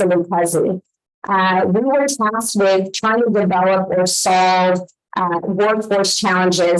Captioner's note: audio echoing